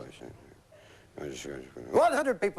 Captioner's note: mumbling